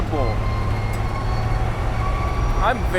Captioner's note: truck engine roaring